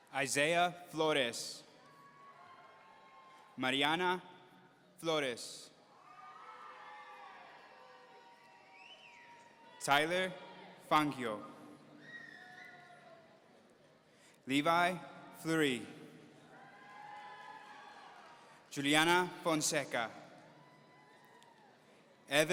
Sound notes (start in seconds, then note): 1.9 audience cheering; 6.0 audience cheering; 11.8 audience cheering; 16.5 audience cheering; 20.5 audience cheering